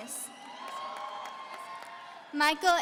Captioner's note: audience cheering